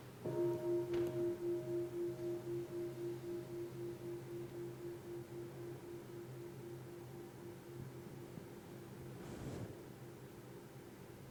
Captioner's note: bell